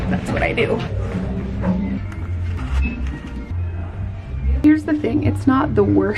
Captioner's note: breathes heavily